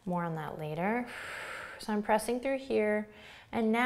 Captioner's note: exhales